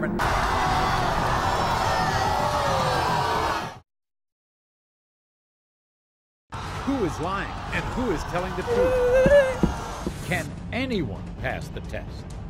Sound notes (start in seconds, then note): 0.2 audience boos; 8.7 woman yells and stomps